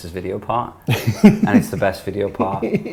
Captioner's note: laughs